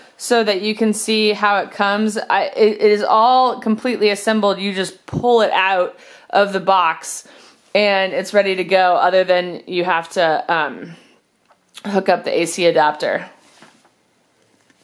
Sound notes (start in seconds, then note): none